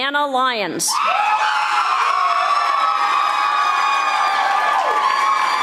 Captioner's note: audience applauding